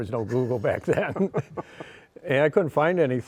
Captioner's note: both laughing